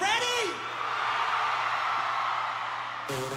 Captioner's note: crowd cheering